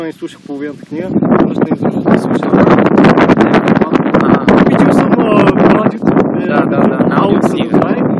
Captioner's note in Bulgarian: чува се вятър